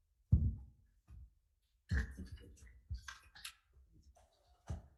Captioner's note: room gently rusting; chairs whispering